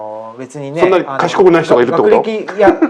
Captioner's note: laughs